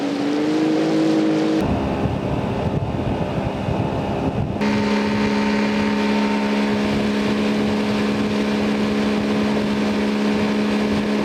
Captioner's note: boat motor sound